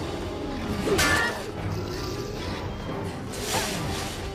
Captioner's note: pan clanking